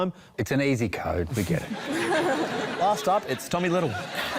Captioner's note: laughter